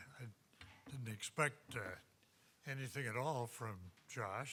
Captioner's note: none